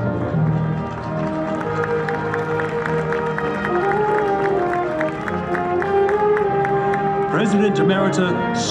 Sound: applause

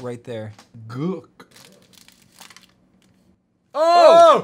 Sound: crunching

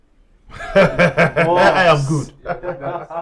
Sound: laughter

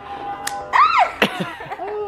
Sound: knife clicks; yells

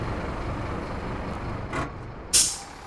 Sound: bus brakes

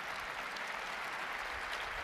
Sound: applause

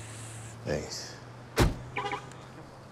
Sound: door thuds; alarm chirps

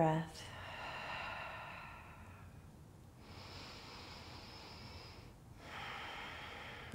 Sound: exhaling and inhaling

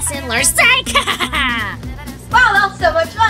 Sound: evil laughter

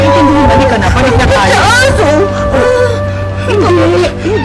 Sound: whimpers

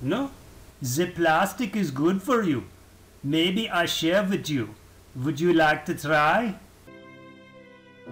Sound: German accent; solemn music

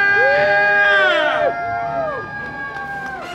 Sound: cheering

